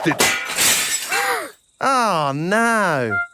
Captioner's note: shatters